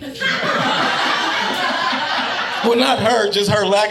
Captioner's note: audience laughing